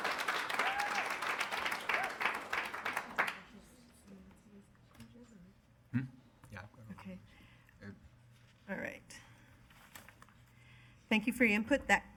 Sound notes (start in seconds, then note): 3.8 speaking softly